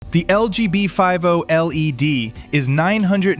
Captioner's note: excited